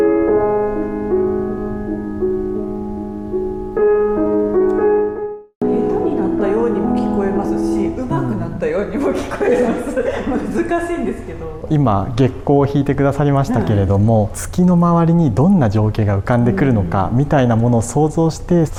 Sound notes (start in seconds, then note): 9.0 laughs